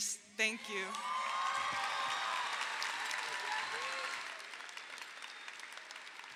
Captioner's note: audience cheers; audience applauds